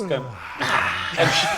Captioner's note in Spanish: Bostezo